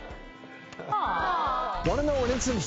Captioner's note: audience awws